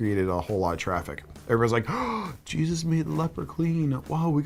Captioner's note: gasp